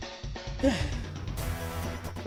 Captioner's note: sigh